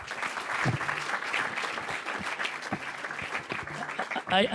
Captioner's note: audience clapping